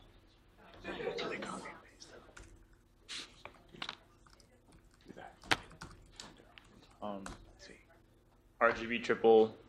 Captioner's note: class murmurs